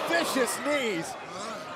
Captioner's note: crowd cheering